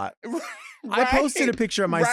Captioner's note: laughing